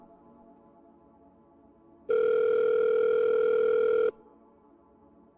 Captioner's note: phone Rings